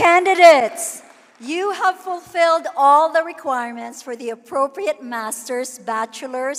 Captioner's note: cheering and applause